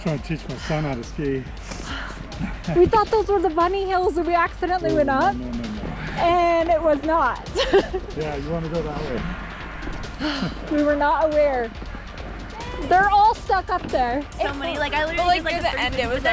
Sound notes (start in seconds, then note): 7.5 laughs